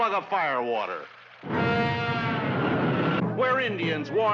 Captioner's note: whoosh